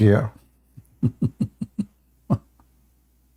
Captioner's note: Ketawa